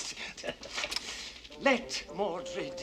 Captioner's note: laughs